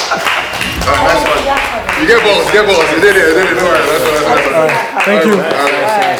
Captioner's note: clapping